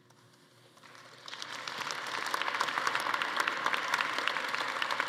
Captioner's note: attendees applauding